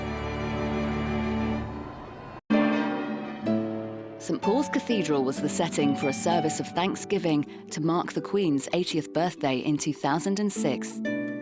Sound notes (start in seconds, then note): 1.1 audience applauding; 2.5 gentle music